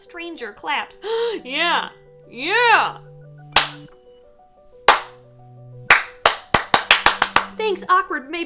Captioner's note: claps